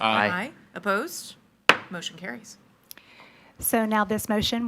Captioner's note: gavel thuds